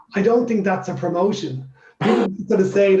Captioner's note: laughs